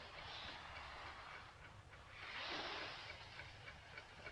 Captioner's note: air hissing